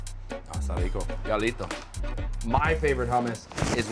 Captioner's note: speaks in Spanish